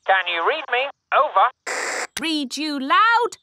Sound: walkie-talkie crackles; walkie-talkie crackles

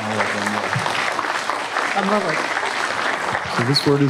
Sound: applause

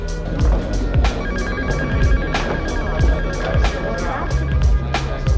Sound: phone rings

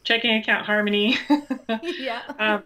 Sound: laughs

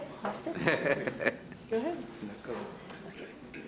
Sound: laughing

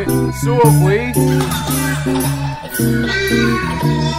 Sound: laughing

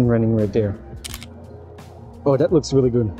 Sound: camera clicking

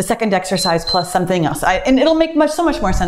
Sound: timer beeps

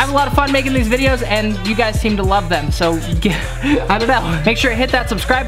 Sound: laughs

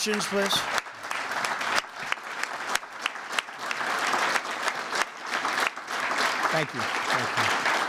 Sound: applause

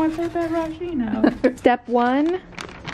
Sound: laughs

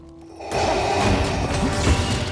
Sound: mechanical breathing

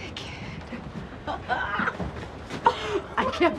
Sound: Vanessa laughs

